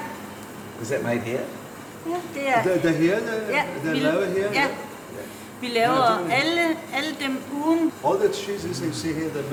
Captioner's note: danish speech